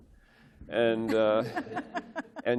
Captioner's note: laughter